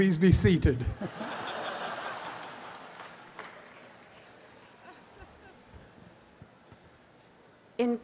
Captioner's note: audience applause and laughter